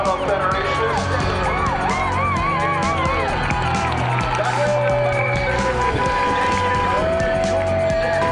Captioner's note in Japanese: 歓声